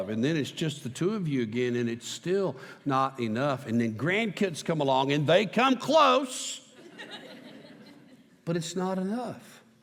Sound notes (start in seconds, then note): 6.7 laughter